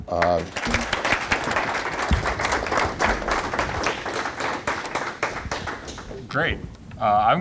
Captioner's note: applause